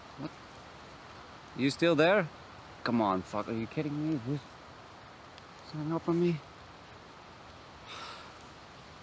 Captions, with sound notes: You're still there? Come on, fuck, are you kidding me? Hanging up on me? [Sigh.]